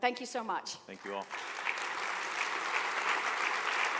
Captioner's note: applause